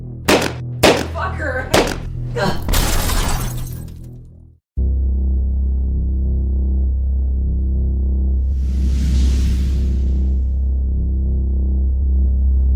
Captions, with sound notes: (Gunfire) Michelle: Fucker! (Crashing glass) (Whooshing smoke)